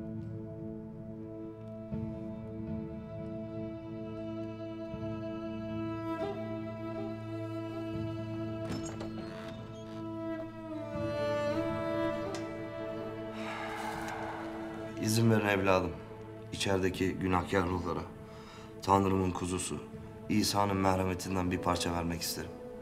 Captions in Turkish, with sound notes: (Müzik - Hüzünlü) (Kapı sesi) İzin verin evladım. İçerideki günahkâr ruhlara... ...Tanrı'nın kuzusu, İsa'nın merhametinden bir parça vermek isterim.